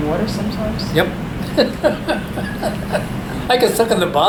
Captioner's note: all laugh